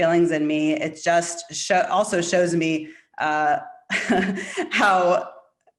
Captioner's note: chuckling